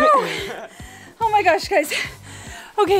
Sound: laughs

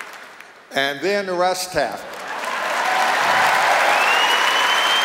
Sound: cheers and applause

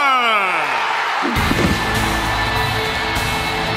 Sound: cheering

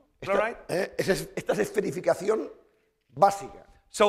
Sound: speaking spanish

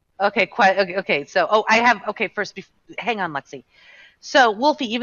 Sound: stammering

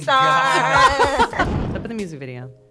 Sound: all laughing

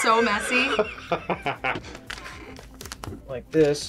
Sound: laughs

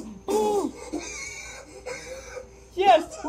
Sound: wheezing

